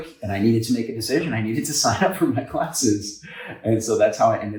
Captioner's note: chuckles